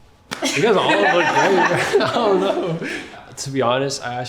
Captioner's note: everyone laughing